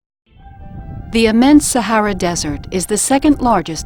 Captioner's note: voiceover